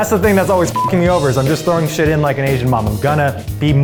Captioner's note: beeps